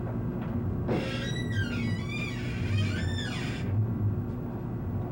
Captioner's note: door screeches